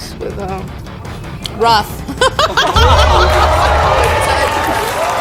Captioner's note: laughs; audience cheering